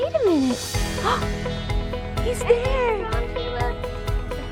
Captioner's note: gasps